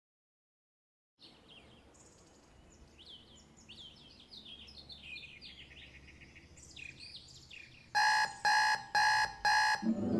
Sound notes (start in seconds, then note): 1.8 birds chirp; 7.9 alarm buzzes